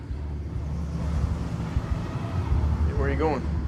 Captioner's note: car engine rumbling